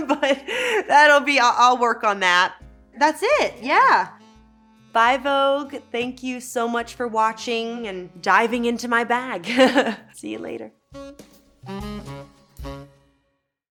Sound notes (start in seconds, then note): 9.4 Elle laughing; 10.9 lively music